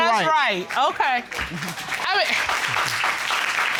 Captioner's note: audience applauding